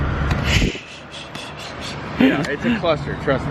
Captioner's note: laughing